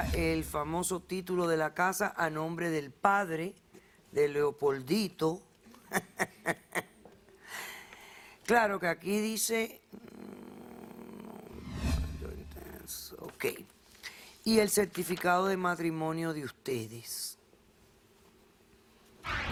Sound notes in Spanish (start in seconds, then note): 8.4 Risas